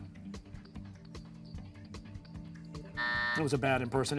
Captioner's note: buzzer